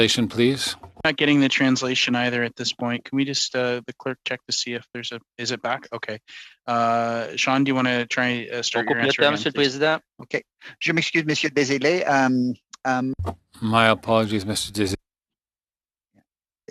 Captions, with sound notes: COMMITTEES OR...? [ Speaking French ] >> TRANSLATION PLEASE. >> WE'RE NOT GETTING THE TRANSITION AT THIS POINT. IS IT BACK? OKAY. SEAN, DO YOU WANT TO.